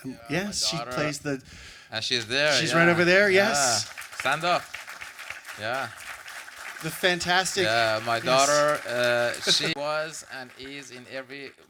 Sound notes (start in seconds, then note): 5.9 applause